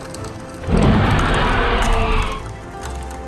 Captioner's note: roars